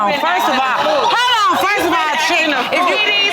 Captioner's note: audience exclaiming